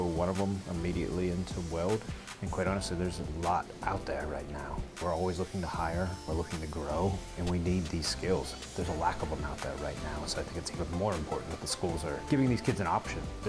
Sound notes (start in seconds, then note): 4.8 tool rasping